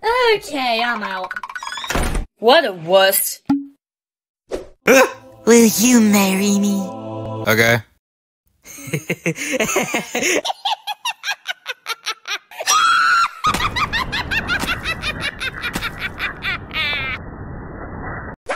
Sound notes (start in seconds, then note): 8.6 Yuri starts laughing; 8.8 ok she laughs even harder